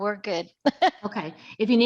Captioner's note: laughs